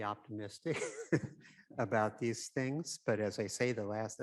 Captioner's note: chuckles